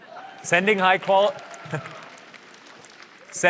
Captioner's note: applause